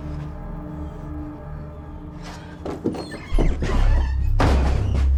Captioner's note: Shelby breathing heavily